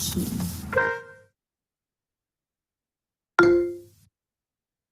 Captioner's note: horn honking